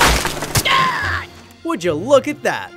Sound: airplane crashing; cat screaming

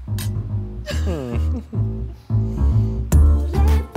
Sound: laughing

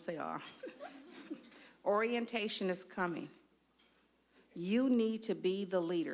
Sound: audience laughing

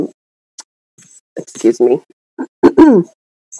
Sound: clears throat

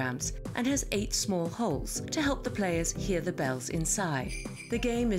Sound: bells

